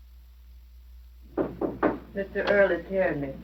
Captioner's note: knocking on door